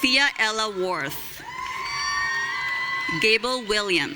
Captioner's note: audience cheering